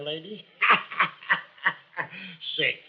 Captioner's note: laughs